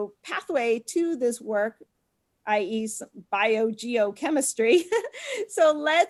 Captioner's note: laughs